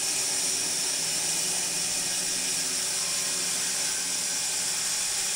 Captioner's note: saw whirring